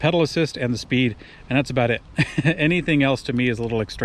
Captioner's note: chuckles